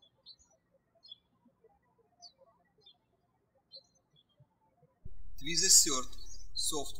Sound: birds chirping

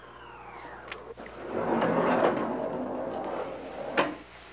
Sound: door rattling

